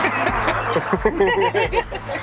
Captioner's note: chuckles